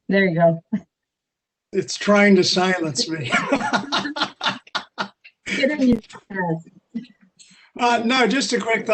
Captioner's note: laughter